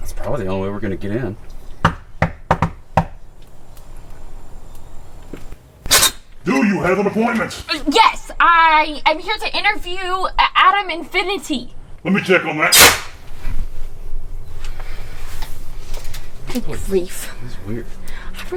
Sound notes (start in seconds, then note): 2.2 hand knocks; 5.8 metal creaks; 12.7 metal slams